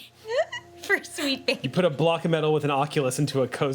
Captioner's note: laughing